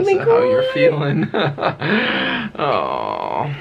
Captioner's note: chuckling